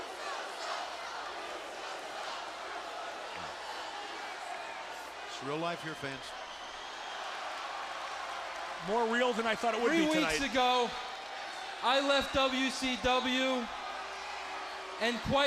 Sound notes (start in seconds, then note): 6.9 crowd cheering